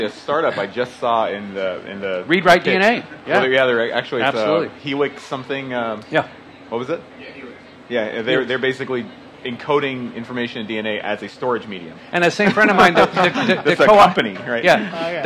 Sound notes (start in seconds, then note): 7.6 response from crowd member; 12.4 laughter